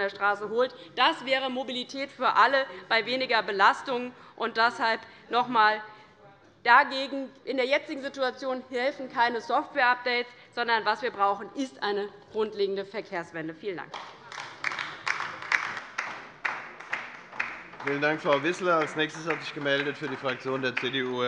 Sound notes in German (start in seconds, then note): 13.9 Beifall bei der LINKEN